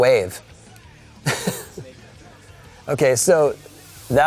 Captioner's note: laughing